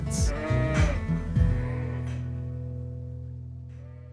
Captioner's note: sheep bleating